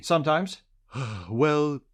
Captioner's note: sighs